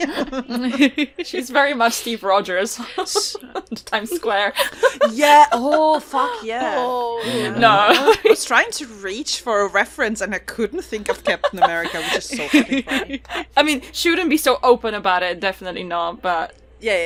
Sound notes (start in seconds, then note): 2.7 laughs; 6.5 laughter